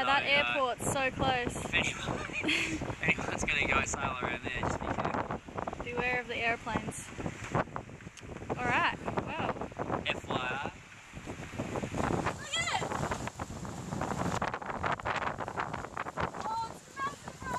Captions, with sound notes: "that airports so close." "So ah... (laughs) if anyones going to go sailing around there just be careful." "Beware of the Aeroplanes." F.Y.I Look at it Elayna "oh its massive Riley."